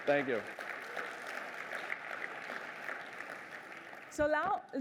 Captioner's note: applause